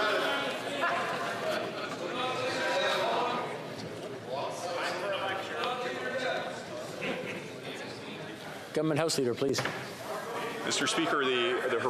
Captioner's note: yelling